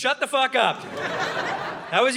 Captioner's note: audience laughing